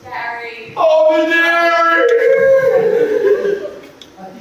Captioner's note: wailing